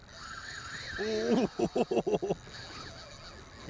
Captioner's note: drag screaming; chuckling